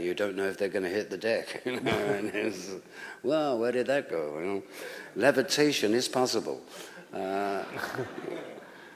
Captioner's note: laughter